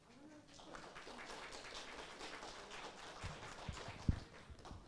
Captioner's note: audience applauds